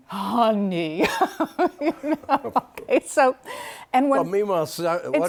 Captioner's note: laughter